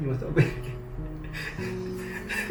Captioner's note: laughter